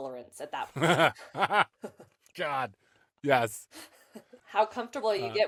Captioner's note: laughs